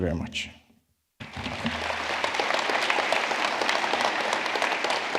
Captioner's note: audience clapping